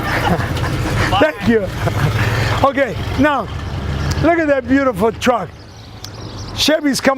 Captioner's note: laughs